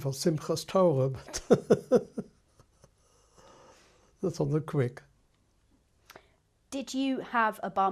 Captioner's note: laughs